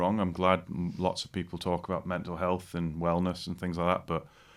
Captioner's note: none